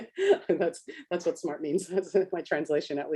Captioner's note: laughs